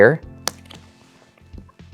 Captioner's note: card slaps